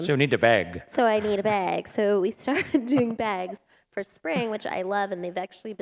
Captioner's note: laughter